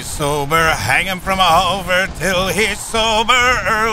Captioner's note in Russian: Клайд напевает себе под нос